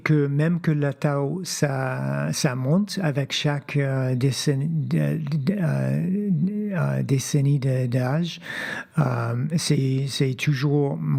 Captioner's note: speaking French